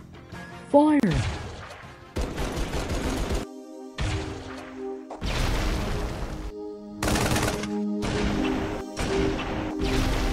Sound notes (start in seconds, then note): 2.1 guns firing; 5.2 explosion